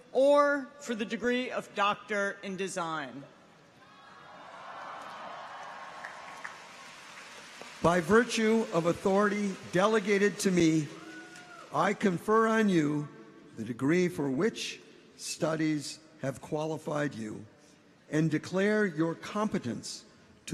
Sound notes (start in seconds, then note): 3.8 people cheer; 4.1 clappers clacking